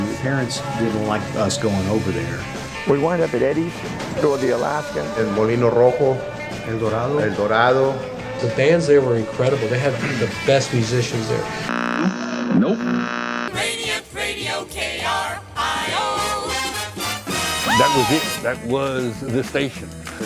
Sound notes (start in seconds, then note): 11.7 radio static